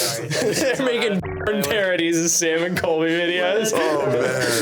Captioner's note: whirring